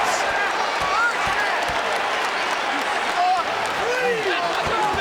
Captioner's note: crowd cheers and claps